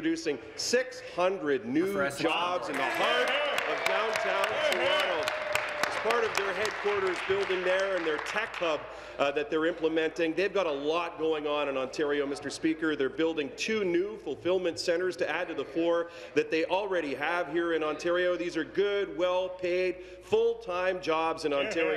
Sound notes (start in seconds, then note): 8.0 applause